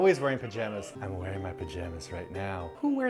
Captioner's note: whispering